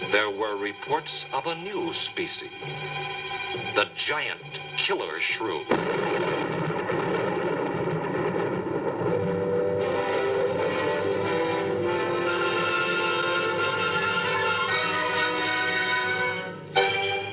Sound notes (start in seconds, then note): 5.6 thunder